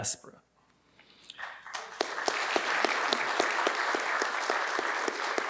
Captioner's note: attendees clapping